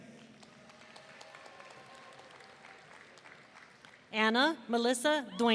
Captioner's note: audience applauding